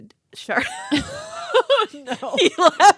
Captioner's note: girls laughing